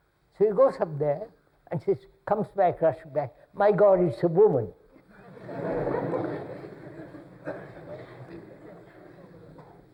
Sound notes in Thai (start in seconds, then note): 5.1 หัวเราะ